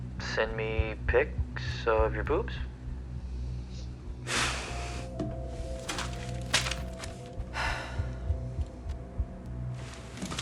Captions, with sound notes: ...send me pics… …of your boobs. (call ends)